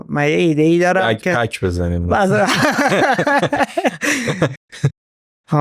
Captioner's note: laughs